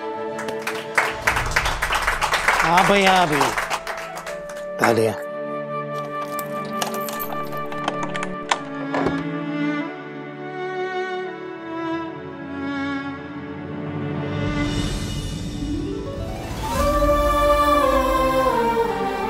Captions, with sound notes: [applause] Yes. Enough with the clapping. [unlocking door] [sentimental music playing] 'Hail Lord Ganesha' [sentimental music playing]